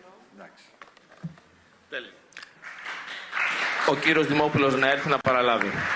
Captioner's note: applause